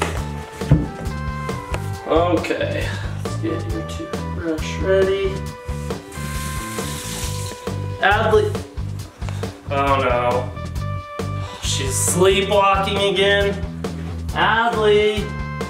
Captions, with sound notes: Okay. Let's get your toothbrush ready. (water running) Adley. Oh no. She's sleepwalking again? Adley!